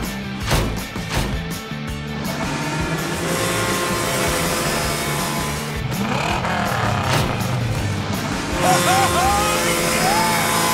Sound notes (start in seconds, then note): 2.0 whirring; 5.4 revving